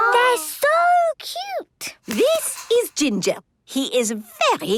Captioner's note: squeaking